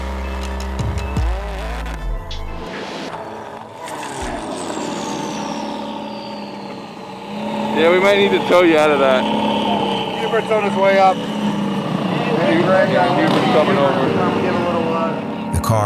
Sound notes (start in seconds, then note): 12.1 guys chattering; 14.3 slow music